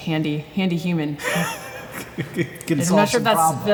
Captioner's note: chuckles